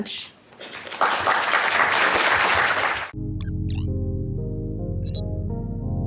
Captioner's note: audience applauding; slow piano music